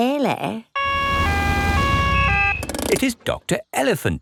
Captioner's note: siren wails